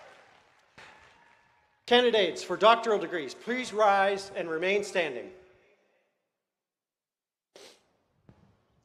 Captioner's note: cheers and applause